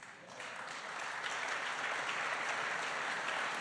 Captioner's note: applause